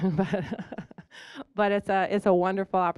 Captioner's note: chuckling